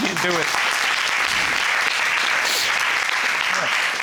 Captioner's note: audience applauding